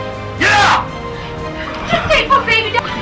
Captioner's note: men pound